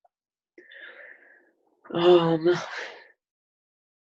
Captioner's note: deep sigh